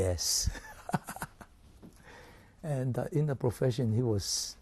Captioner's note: laughs